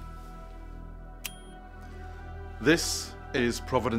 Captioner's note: button beeps